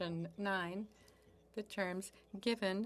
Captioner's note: speaking French